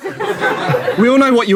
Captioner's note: people in room laughing